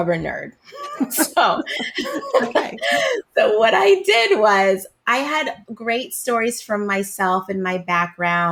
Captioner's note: laughs